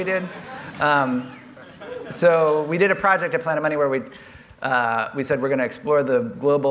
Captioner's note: laughter